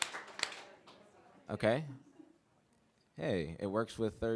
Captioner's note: clapping